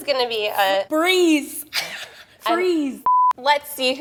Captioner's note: laughs; beep